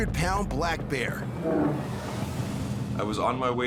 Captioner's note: bear growls